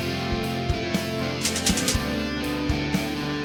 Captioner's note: rhythmic clicking